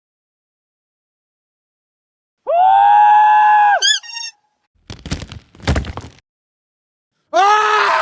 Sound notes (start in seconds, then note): 3.8 dog toy squeak; 4.8 rocks falling; 7.2 screaming